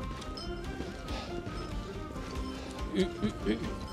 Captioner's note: heavy breathing